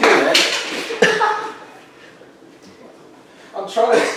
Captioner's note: knife hitting floor, audience laughing